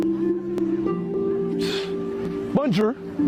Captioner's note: huffs